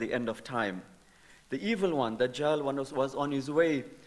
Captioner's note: speaking in foreign language